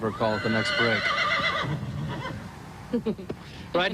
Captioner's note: loud horse neigh